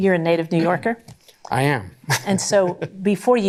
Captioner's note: chuckling